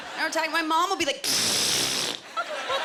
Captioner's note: imitating blowing nose